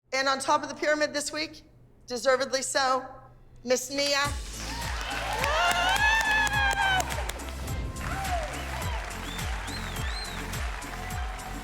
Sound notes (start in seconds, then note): 4.4 applause; 7.2 upbeat music